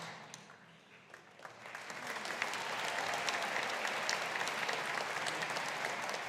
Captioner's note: audience applauding